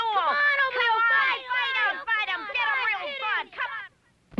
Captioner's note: kids goading Oblio on